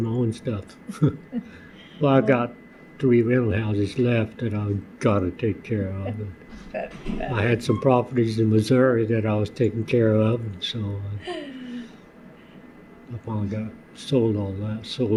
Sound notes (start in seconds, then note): 2.5 laughter